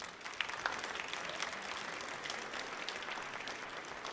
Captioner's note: audience clapping